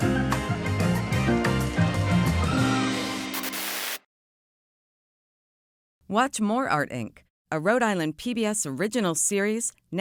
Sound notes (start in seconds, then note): 3.3 static buzzing